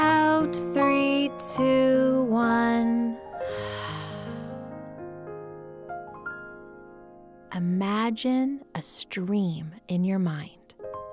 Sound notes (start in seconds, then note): 3.4 exhaling; 5.9 soft music